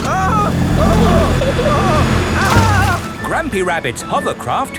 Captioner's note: grandpa screaming